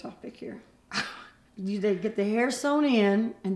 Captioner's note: laughs